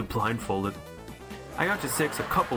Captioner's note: laughing